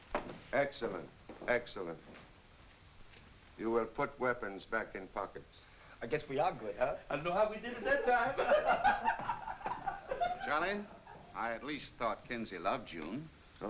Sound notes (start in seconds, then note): 7.7 laughing